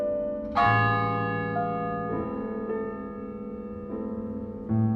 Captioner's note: a funeral toll. piano continues